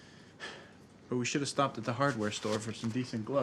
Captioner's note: sighs